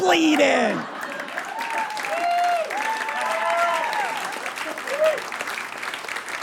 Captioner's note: audience laughs, cheers, and applauds